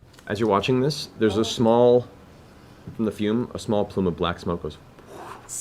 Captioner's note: whoosh